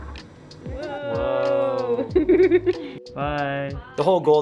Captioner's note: laughs